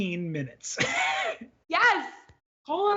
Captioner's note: laughs